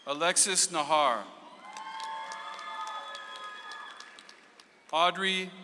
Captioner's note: audience applauds